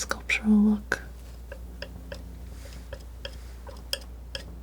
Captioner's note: tapping